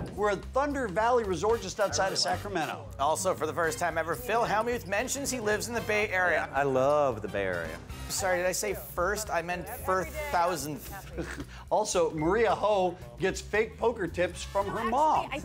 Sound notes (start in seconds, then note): 10.8 laughs